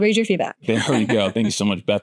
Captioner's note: laughs